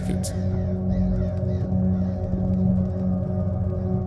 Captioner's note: crows cawing